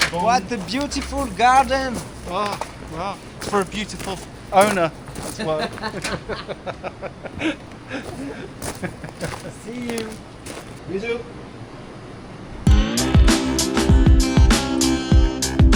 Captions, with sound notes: What a beautiful garden. Wow, wow. For a beautiful owner. (laughing) See you. You too. (upbeat music)